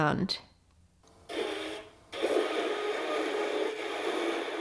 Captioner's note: more scratching noises